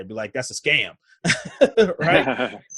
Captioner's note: laughs